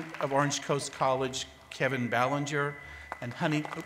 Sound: cheers and applause

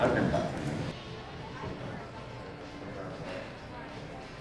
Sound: patrons chattering

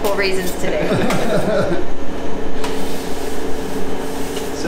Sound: laughing

